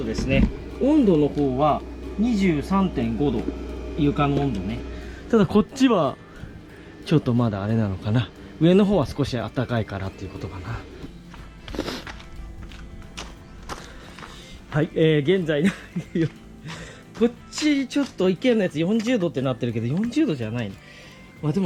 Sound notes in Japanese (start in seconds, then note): 11.7 鼻息; 15.6 笑い